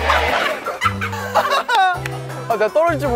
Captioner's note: bursting into laughters